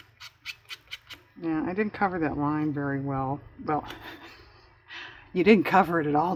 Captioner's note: laughs